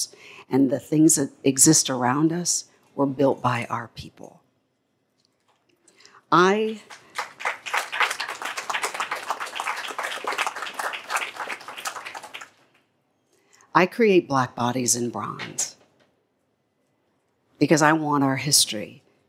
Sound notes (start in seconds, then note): 6.6 applause